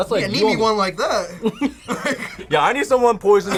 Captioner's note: both laugh